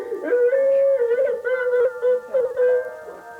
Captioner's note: loud sobbing